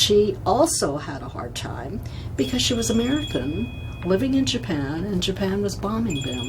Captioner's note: phone rings